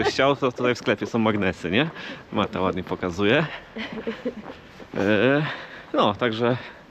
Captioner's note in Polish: śmiech